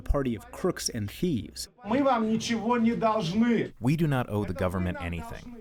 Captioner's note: through translator